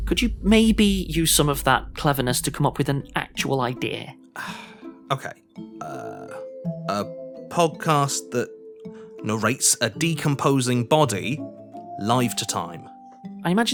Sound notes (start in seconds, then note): 5.8 sighs